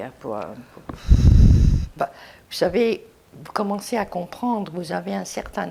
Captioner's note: sighing